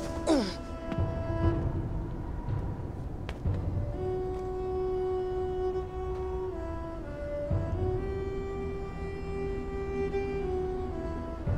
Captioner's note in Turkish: Takırtı Sesleri